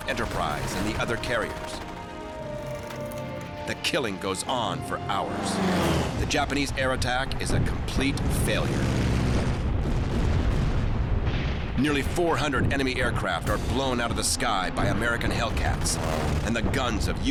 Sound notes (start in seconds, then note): 7.9 cannon fire; 8.1 engine roaring